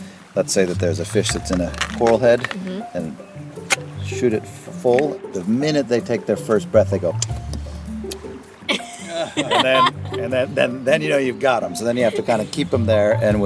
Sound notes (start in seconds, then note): 7.1 lips smacking; 8.6 laughs